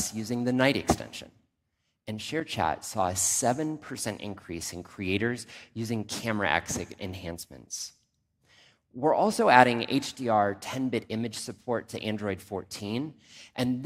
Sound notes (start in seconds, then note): none